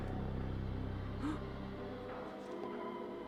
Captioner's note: gasps